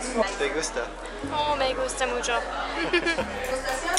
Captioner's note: laughter